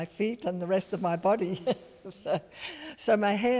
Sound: chuckles

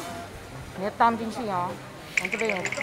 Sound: in mandarin

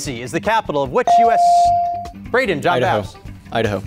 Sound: beep

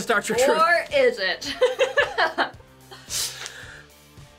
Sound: laughing

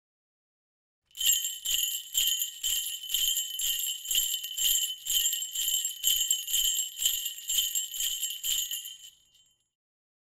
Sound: sound of jingle bells

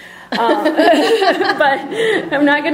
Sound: laughter

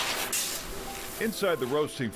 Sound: beans tumble

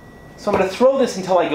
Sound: thuds

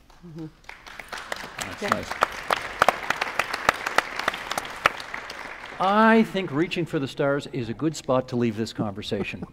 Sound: applause

